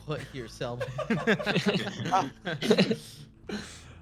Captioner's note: laughing